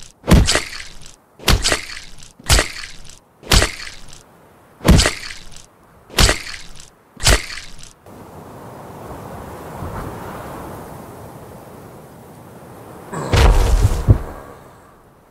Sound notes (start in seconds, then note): 0.2 brutal punch; 3.5 punch; 4.8 brutal punch